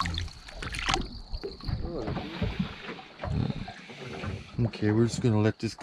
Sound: fish splashing

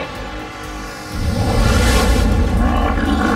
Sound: whooshing; growls

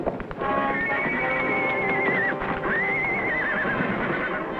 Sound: horse neighs

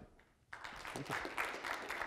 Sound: applause

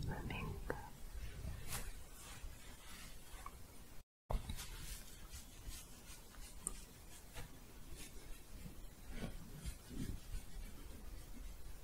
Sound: scratching

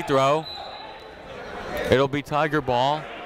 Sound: whistle

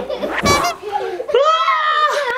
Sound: children laughing; horn beeping; person screaming

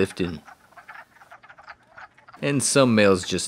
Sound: quacking

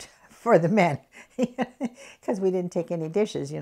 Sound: laughs

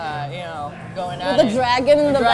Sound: laughs

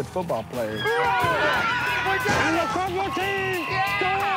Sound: yelling

